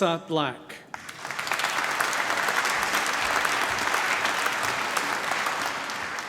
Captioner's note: applause